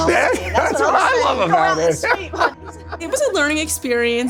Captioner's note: laughing